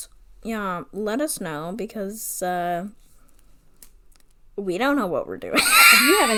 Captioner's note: laughs